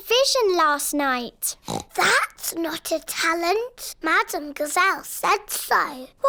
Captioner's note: oinks